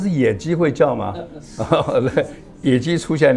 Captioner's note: laughs